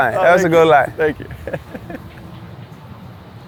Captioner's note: laughs